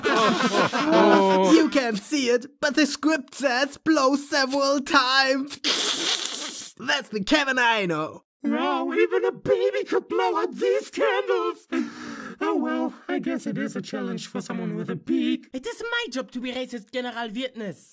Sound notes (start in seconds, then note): 0.0 chuckles; 5.9 chuckles